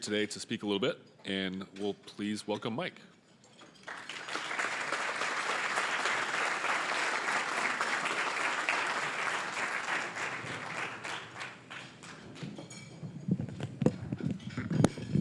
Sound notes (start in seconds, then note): 3.8 applause